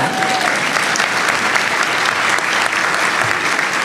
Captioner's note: applause